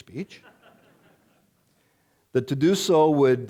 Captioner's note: audience laughing